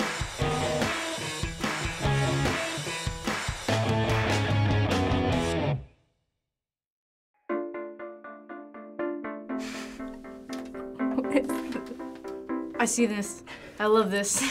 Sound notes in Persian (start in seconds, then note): 11.0 آهسته خندیدن